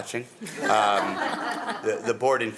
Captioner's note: attendees laughing